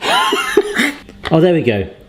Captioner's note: laughing